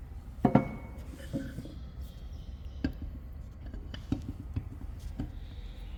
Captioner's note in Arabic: none